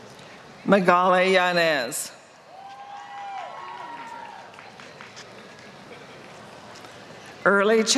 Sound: applause

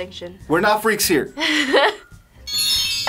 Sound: laughs; chimes ringing

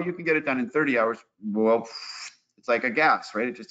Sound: blows

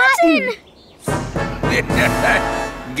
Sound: laughing

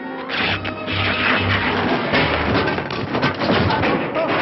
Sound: fabric ripping

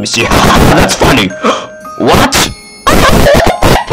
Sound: gasp

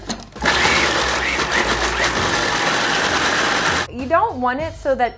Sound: food processors whirring

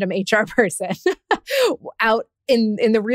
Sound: laughs

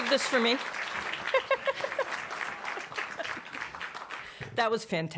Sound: giggles

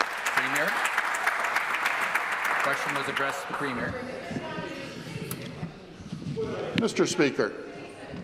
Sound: applause

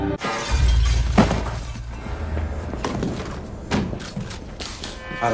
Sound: glass shattering

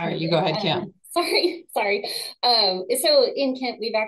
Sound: laughing

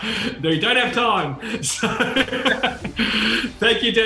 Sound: laughing

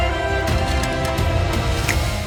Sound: snaps fingers

